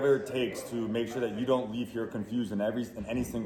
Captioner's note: people chattering